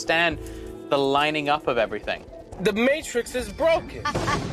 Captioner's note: laughs